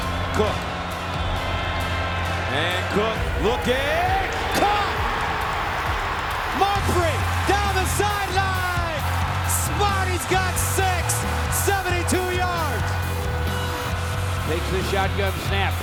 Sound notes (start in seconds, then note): 4.5 crowd cheering; 12.7 upbeat music